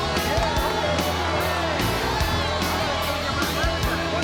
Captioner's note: audience cheers